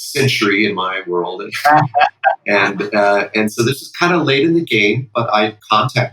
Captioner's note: laughter